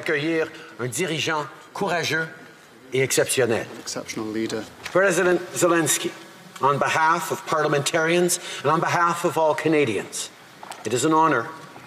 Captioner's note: speaking French